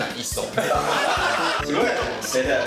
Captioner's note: hahahahahahahaha